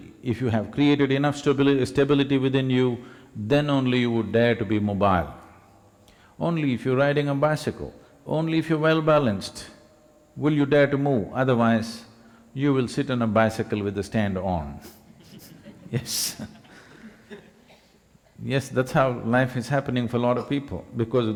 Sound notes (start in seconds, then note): 14.8 few Laugh; 14.9 laugh